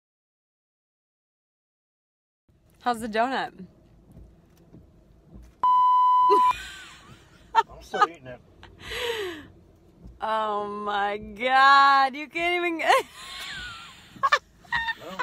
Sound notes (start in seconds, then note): 5.6 beep; 7.8 laughing; 14.3 laughing